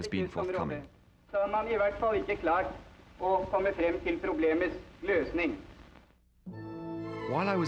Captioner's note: Thor Heyerdahl speaking Norwegian